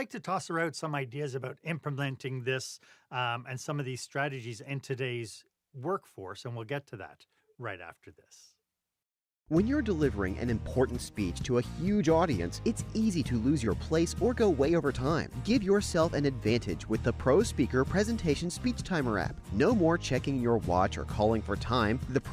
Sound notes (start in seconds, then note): 9.3 voiceover